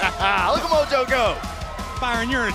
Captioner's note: laughter